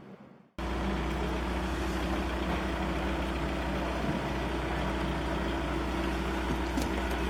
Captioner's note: sound of refueling